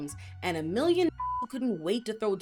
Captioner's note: beep